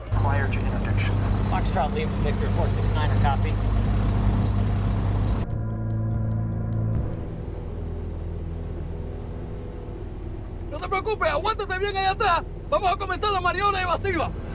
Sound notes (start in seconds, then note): 10.7 speaking Spanish